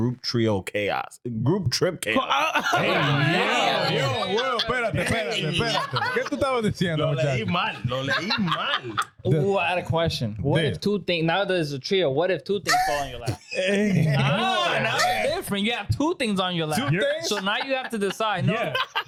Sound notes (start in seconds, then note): 4.5 laughing; 4.5 speaking In Foreign Language; 14.3 laughing